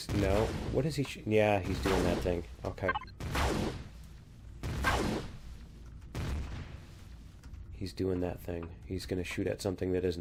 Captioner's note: Plasma turret stops